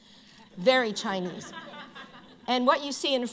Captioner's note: laughter